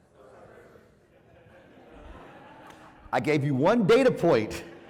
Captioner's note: laugh